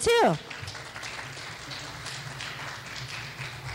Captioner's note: clapping